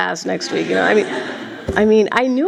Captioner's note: laughter